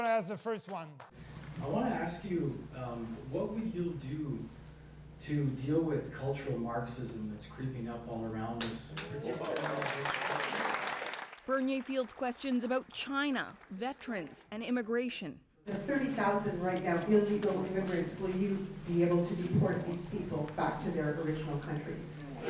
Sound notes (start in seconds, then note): 14.4 applause